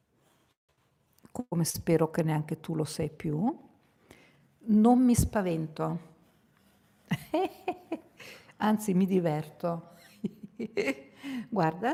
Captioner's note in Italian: risate